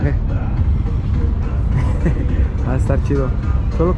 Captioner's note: laughter